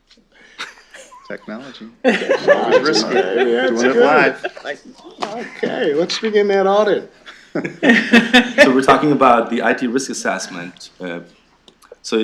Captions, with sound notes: Technology. [LAUGHTER] It's risky. Yeah, it's good. OK, let's begin that audit [LAUGHTER] So we're talking about the IT risk assessment.